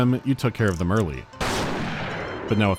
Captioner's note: pow